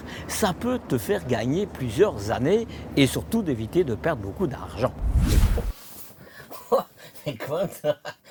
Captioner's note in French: rires